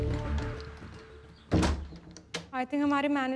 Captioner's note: Door closes